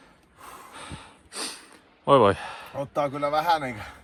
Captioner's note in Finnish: huokaisee